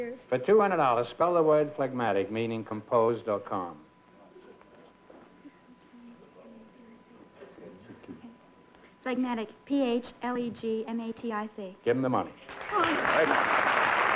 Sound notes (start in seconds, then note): 5.4 whispering; 13.9 applause